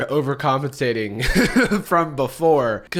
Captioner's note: chuckles